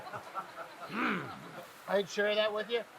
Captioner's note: grunts